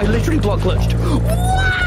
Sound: gasp

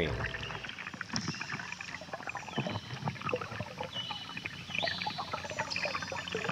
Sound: water rippling and birds chirping

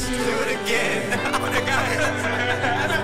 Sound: laughter

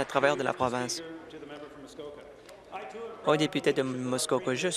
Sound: applause

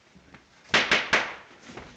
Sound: gavel banging

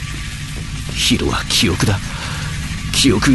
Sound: electrical sounds

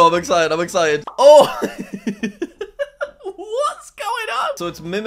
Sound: laughs

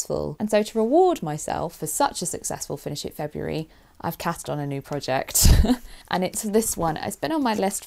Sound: laughs

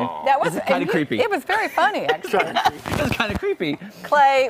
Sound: laughter

